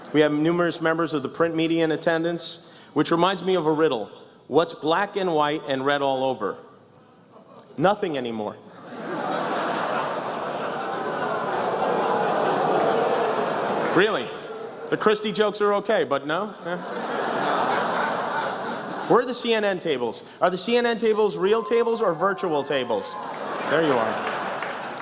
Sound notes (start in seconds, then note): 7.0 almost tauntingly; 8.7 laughs, bigger oohs; 24.8 laughter